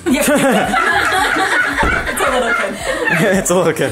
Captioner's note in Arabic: يضحك الجميع